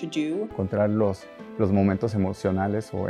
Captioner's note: non-english speech